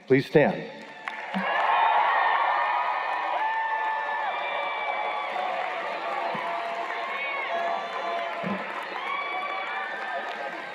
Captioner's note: cheers and Applause